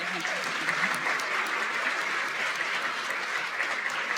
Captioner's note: applause